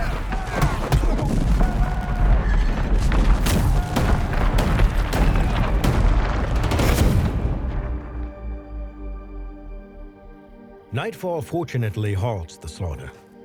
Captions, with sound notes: (explosions) (men screaming) Nightfall fortunately halts the slaughter.